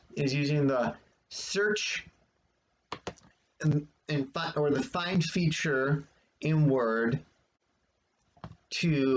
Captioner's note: click of trackpad